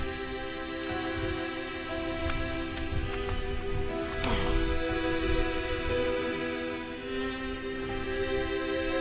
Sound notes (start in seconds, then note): 4.5 Asher groaning